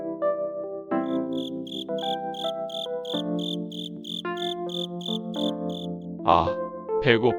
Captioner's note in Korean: 귀뚜라미 소리